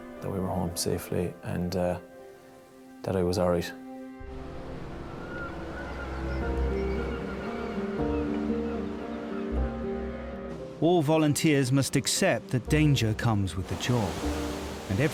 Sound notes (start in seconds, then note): 4.5 seagulls squawking; 7.1 soft music